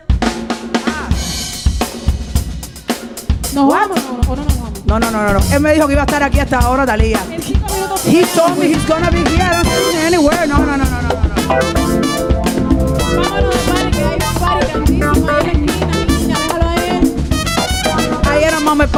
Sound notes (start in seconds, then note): 0.1 upbeat music; 3.7 speaking in Spanish; 11.6 upbeat music; 13.9 singing in Spanish; 13.9 upbeat music continues